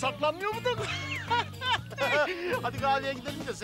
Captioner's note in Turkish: Gülme sesleri